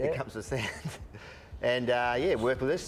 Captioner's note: chuckles